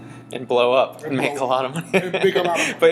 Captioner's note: laughing